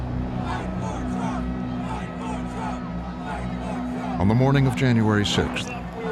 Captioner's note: chanting